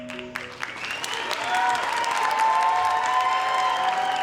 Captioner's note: audience applauding; audience cheering